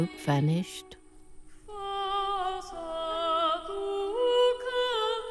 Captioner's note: Arabic spoken audio